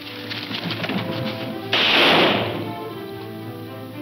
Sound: thudding; gunshot

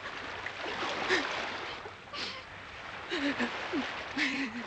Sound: woman sobbing

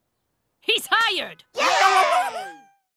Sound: cheering

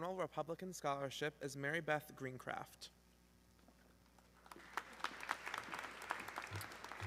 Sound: audience clapping

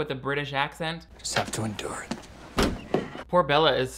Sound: door opening forcefully

